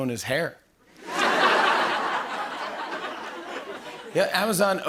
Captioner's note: laughter